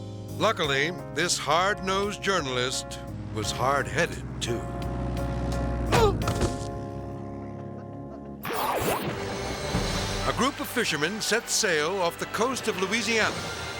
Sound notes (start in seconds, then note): 5.9 reporter grunts; 8.4 dramatic music; 8.5 logo whooshes